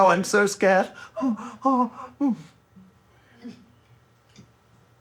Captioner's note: whimpering; chuckling